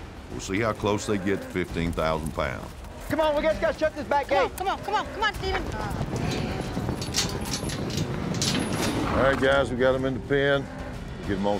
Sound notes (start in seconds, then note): 5.8 hoofbeats, gate clanking